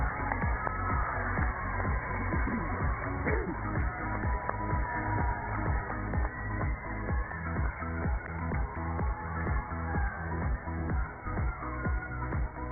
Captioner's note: cheers and applause